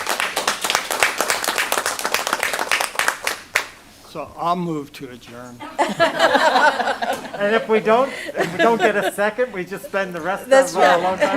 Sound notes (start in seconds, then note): 5.7 laughter